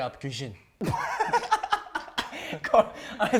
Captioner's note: laughing